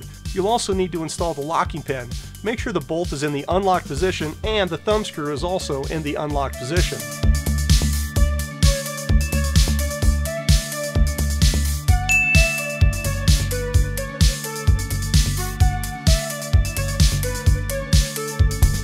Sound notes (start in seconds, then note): 12.0 bell ringing